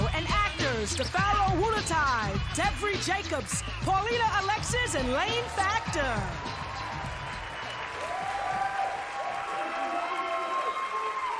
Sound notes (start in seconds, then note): 7.8 applause